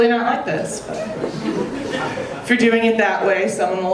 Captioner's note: audience laughing